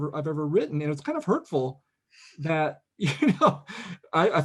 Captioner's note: laughs